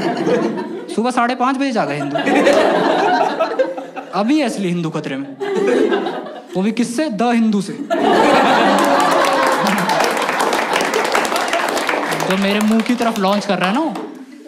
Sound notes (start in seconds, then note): 8.6 Clapping